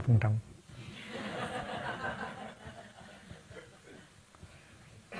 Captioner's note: audience laughing